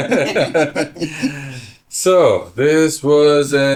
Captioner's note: laughter